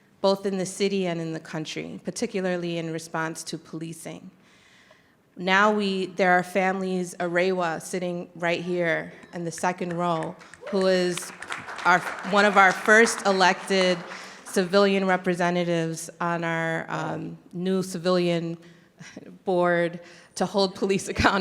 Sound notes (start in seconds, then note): 9.6 audience clapping